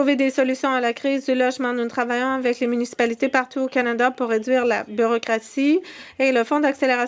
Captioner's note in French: voix de l'interprète